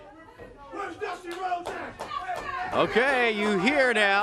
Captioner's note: crowd chatter